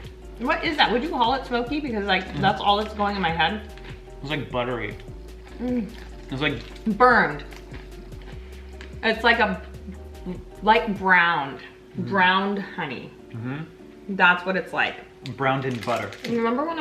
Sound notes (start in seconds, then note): none